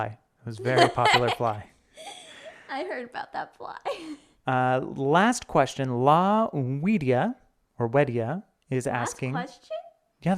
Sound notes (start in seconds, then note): 0.6 laughing; 1.9 giggles